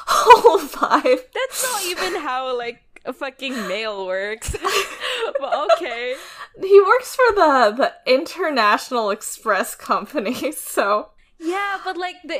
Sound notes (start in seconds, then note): 0.1 both laugh; 4.4 laughs